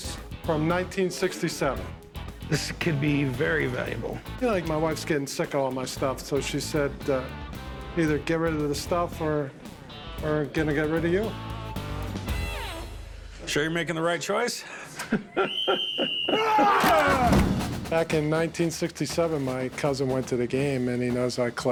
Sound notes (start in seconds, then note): 14.9 laughing